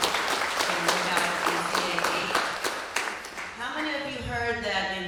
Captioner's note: applause